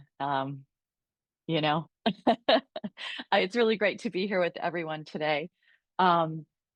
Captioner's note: laugh